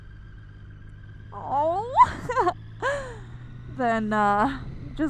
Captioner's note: chuckles